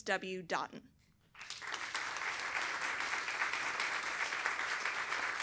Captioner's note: applause